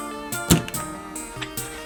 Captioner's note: crack